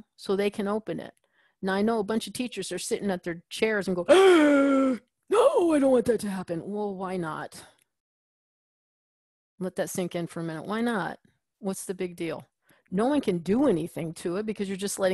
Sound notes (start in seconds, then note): 4.1 gasps